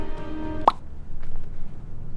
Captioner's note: pop!